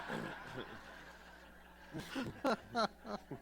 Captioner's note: laughter